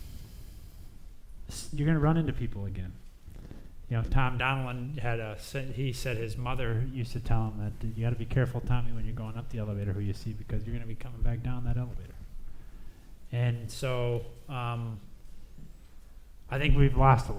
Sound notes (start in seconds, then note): none